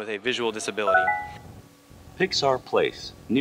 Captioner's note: alert chime from device